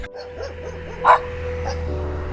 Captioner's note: doggo barking